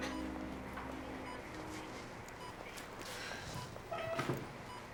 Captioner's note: monitor beeping